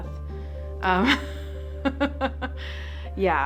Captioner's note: chuckling